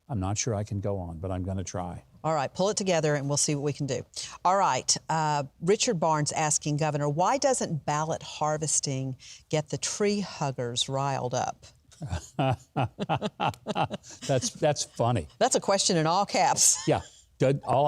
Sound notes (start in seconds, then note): 12.0 laughs